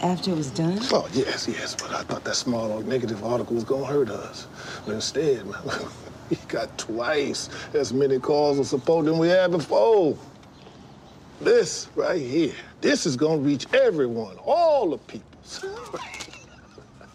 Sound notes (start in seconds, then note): 5.2 chuckles; 15.5 laughs